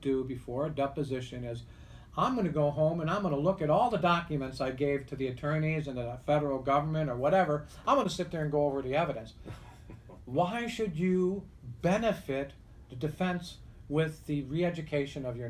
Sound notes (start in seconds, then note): 9.4 laughs